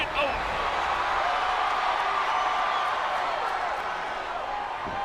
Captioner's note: crowd cheering